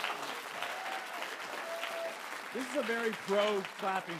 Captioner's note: audience cheering; audience applauding